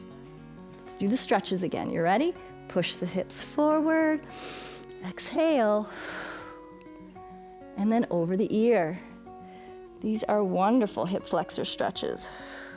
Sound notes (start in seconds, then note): 4.3 inhales; 4.3 exhales